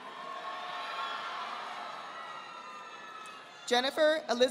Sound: audience applauding

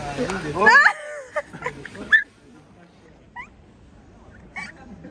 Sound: laughing

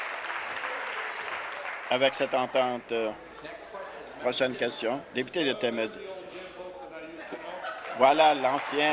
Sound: applause

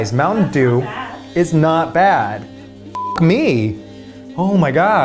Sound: beep

